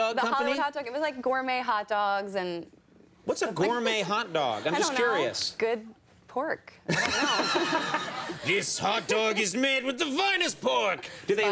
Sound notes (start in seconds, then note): 4.6 laughter; 6.8 laughter